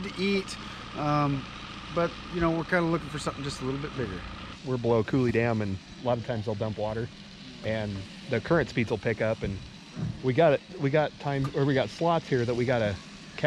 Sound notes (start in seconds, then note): 5.3 boat engine idling